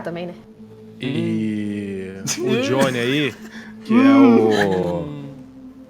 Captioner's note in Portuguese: Risadas